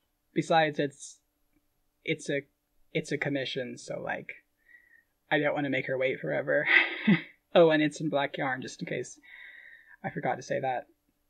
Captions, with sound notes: Besides, it's, it's a, it's a commission, so like, I don't want to make her wait forever. [laughing] Oh, and it's in black yarn, just in case I forgot to say that.